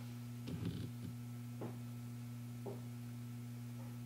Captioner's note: knocking